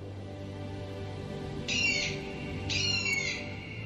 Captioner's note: bird cawing